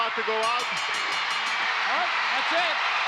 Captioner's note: bell ringing